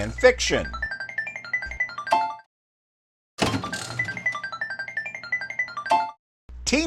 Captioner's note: slot machine sounds